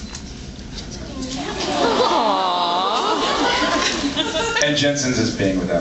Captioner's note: awwws